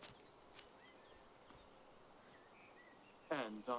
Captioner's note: birds singing